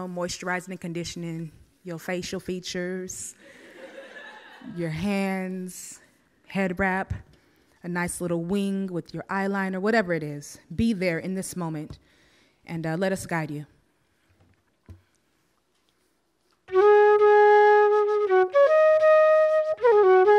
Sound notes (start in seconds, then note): 3.5 audience laughs